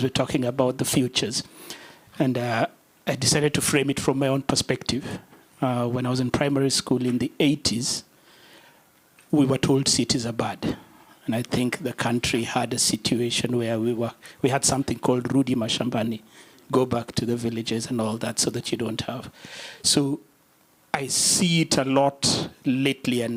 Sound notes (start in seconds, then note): 15.5 non-english